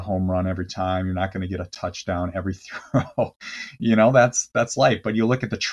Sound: laughs

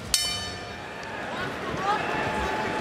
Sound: bell rings

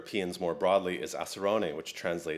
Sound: speaks another language

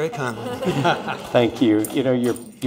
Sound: audience laughs

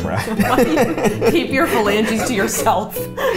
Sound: laughing

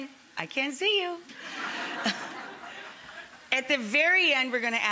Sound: audience and Rachael laughing in unison

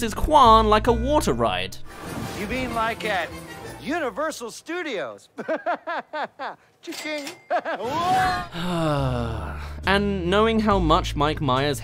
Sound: siiiigh

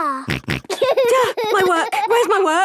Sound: snorts; giggling

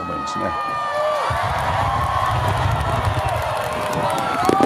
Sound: applause

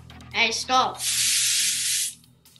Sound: water running

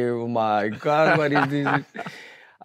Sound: laughs

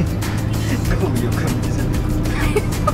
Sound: laughs

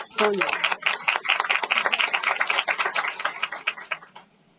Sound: applause

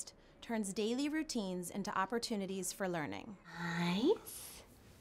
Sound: none

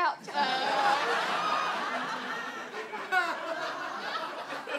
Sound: audience laughs

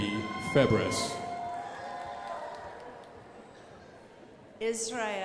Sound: crowd applauding

